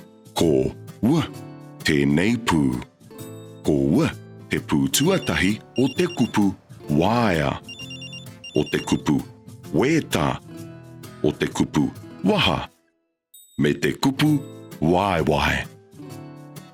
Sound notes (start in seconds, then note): 5.7 phone